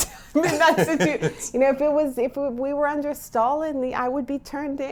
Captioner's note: laughs